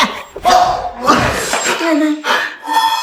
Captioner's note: scoffs